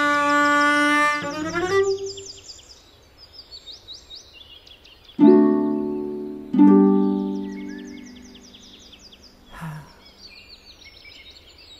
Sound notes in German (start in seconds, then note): 2.5 Vogelzwitschern; 9.4 Seufzen; 10.2 Vogelzwitschern